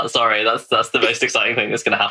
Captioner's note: laughs